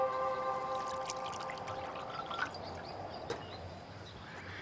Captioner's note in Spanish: Sonido al verter líquidos